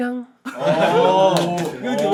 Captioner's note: laughing